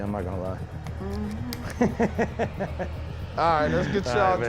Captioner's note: laughs